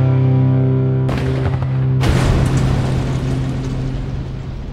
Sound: car exploding

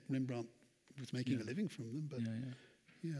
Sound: none

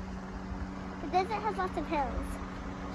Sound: car running in background

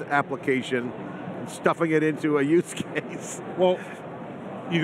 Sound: chuckling

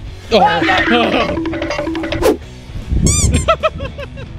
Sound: screaming; squeak; laughs

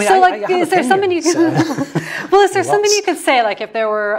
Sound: laugh

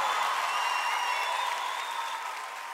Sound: Gritos y aplausos

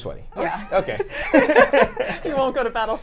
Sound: everyone laughs

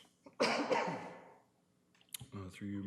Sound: coughs

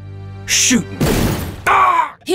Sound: bang

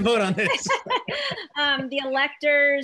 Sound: laughing

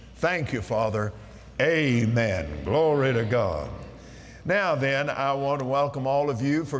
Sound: audience "Amens"

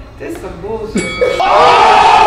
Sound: Boxing bell sound; crowd Jeering

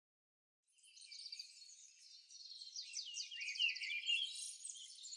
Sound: birds chirping

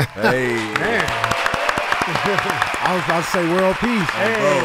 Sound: laughs; group applauds

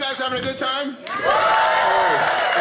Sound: audience cheers

